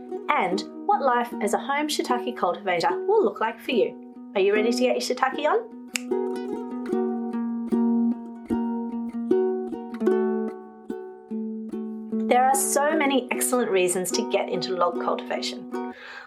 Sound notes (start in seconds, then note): 5.9 click; 6.2 ukulele music